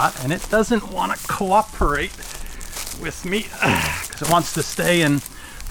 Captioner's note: grunts